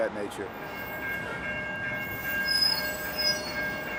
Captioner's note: ringing bell; squeaking brakes